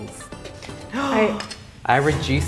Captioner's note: shrieks